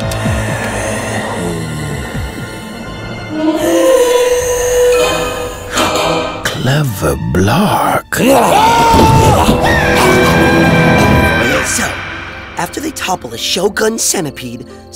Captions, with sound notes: (gasps) - Clever Blark. (screams) - After they topple the Shogun Centipede,